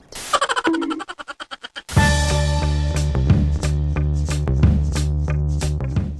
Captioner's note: animal laughing sound; upbeat music